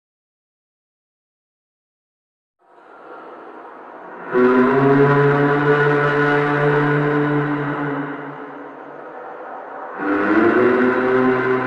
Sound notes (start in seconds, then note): 2.7 humming sound